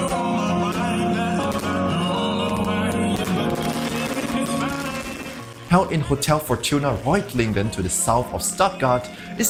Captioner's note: fireworks